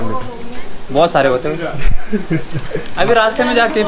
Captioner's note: laughs